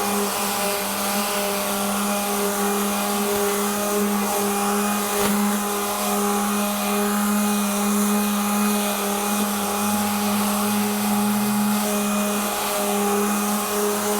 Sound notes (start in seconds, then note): 0.6 sanding